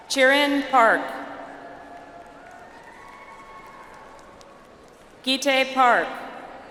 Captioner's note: audience applauds